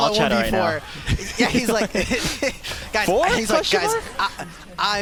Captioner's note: laughter